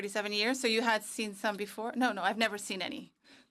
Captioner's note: speaking French